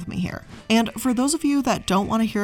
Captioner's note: air whooshing